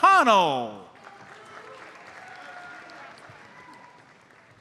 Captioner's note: audience applauds